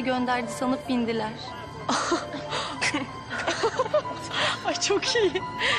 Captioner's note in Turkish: Gülme